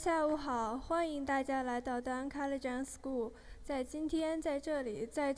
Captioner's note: speaking in foreign language